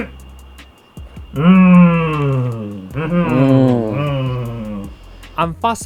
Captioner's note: approval noises